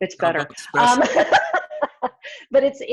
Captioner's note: laughs